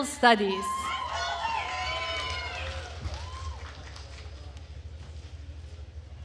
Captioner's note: attendees cheering and applauding